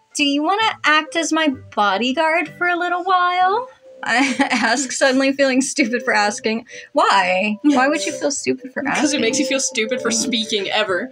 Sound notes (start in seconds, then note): 7.7 chuckle